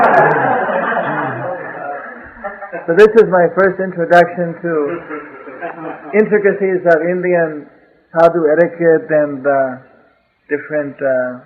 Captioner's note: laughter